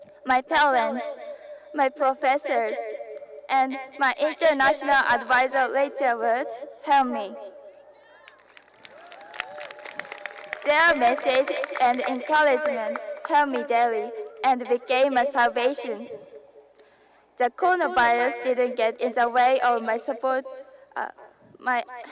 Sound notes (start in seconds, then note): 8.8 encouraging cheers